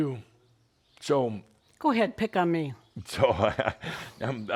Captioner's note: Adamus chuckles